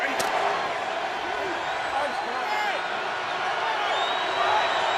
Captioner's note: crowd cheering